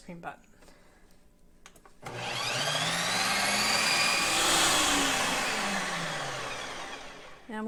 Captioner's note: sound of machine